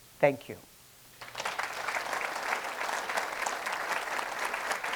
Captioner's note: attendees applauding